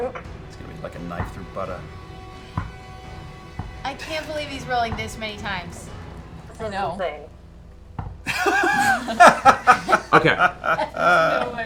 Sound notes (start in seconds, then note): 0.0 laughs; 8.2 laughter